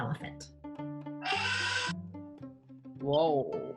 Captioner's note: elephants trumpets